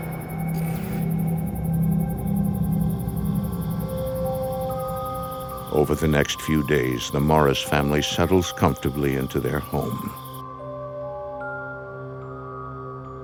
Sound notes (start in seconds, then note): 2.5 crickets chirping; 10.7 gentle music